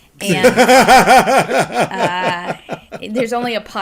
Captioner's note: laughter